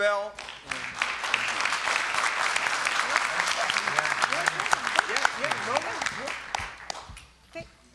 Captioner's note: applause